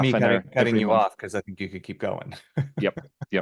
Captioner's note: laughs